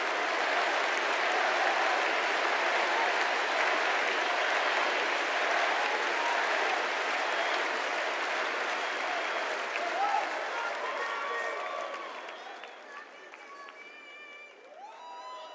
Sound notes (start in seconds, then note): 0.0 cheers and applause; 4.2 crowd chanting